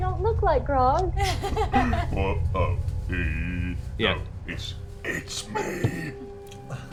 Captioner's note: whispers